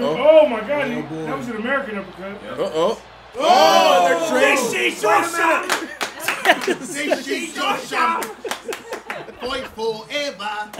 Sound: applause; laugh

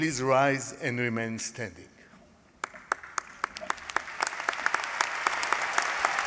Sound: applause

